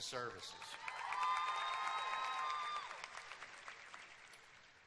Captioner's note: cheers and applause